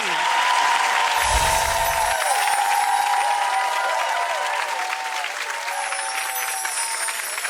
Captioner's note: audience cheers and applauds; whooshing; sparkling